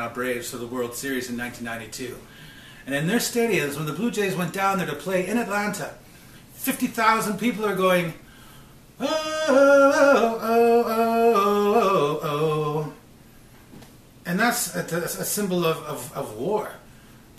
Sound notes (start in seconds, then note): 9.0 humming